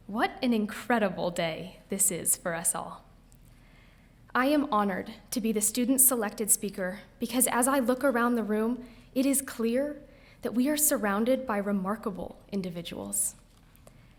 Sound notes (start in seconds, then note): none